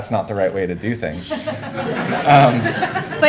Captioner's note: laughter